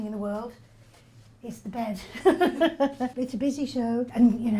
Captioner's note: laughs